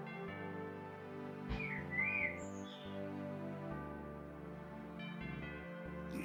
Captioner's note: birds chirping